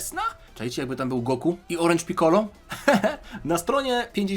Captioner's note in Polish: śmiech